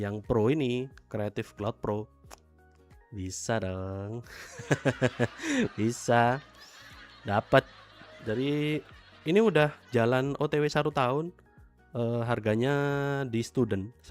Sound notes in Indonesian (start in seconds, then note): 4.4 tertawa